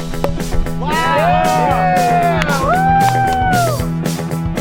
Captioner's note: cheering